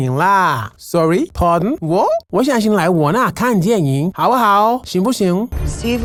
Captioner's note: Speaking Mandarin You've watched too many 007 films, my dear